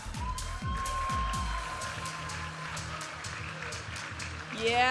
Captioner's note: audience applauding and cheering; upbeat music